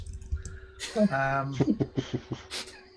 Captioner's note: laughter